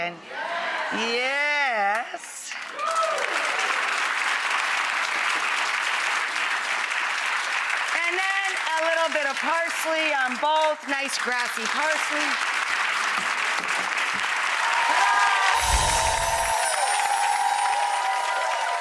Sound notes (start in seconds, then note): 2.8 applause; 15.7 applause